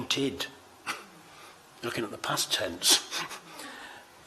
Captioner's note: chuckles